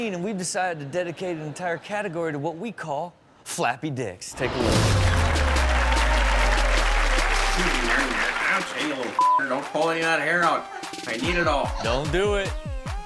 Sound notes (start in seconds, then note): 4.4 audience cheers; 6.5 electronic music; 9.2 beep; 12.8 electronic music